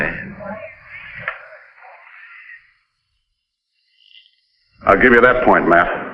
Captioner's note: crowd chattering